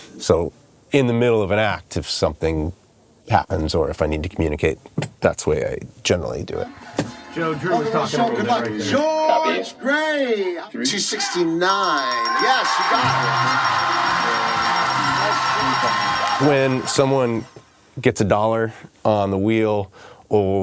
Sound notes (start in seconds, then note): 7.4 voiceover; 11.7 bell dings; 14.4 audience cheering